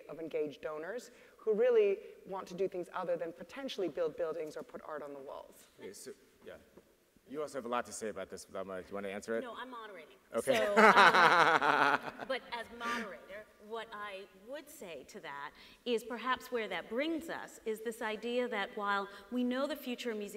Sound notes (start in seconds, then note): 10.4 laughs